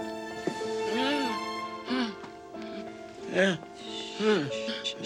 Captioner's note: Lilly gasps